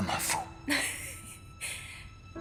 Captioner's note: chuckles